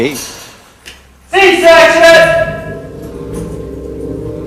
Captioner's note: shouting